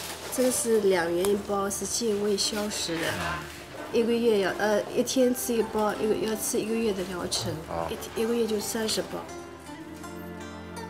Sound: speaking Chinese

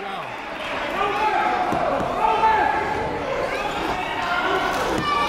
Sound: crowds cheering and yelling

